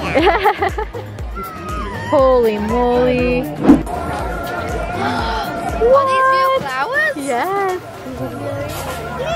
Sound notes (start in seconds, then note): 0.1 laughing; 5.2 gasps